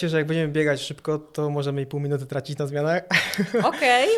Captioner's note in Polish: śmiech